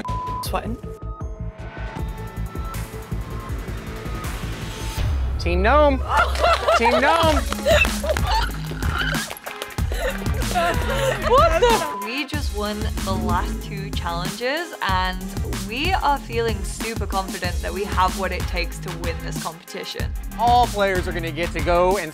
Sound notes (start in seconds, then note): 0.5 beep; 1.4 suspenseful music; 6.1 laughing; 6.2 soft applauding; 11.9 beep